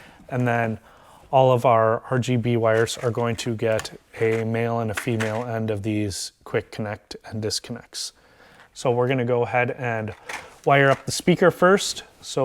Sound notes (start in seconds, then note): 4.9 connectors rattling